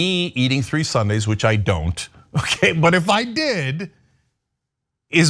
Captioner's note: laugh